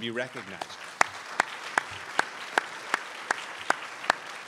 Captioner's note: crowd applauds